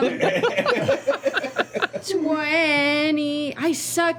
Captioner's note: laughter